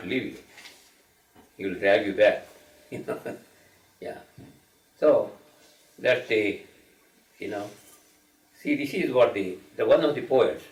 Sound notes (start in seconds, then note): 2.9 chuckling